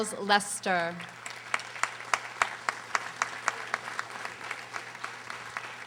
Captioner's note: audience applauding